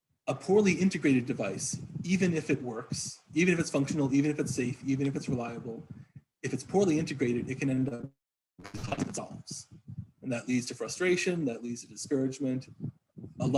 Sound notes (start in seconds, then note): 8.6 audio interruption